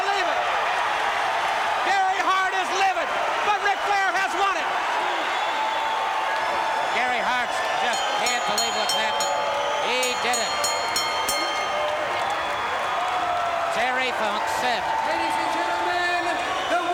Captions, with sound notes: >> I CAN'T BELIEVE IT. GARY HART IS LIVID, BUT RIC FLAIR HAS WON IT. >> [CROWD CHEERING] >> GARY HART JUST CAN'T BELIEVE WHAT HAPPENED. >> [BELL RINGING] >> HE DID IT. >> [CROWD CHEERING] >> TERRY FUNK SAID... >> LADIES AND GENTLEMEN, THE